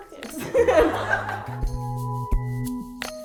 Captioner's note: laughter